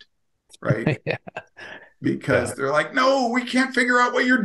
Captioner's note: laughs